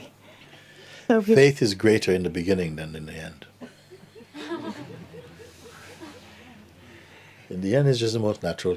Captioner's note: laughter